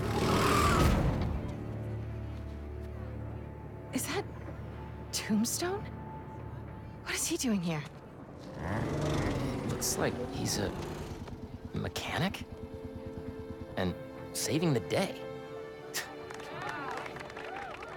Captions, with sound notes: Is that... ...Tombstone!? What is he doing here? It looks like he’s a... ...mechanic? And.. saving the day! (laugh)